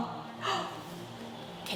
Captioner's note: gasp